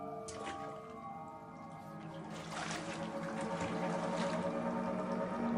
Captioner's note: splashing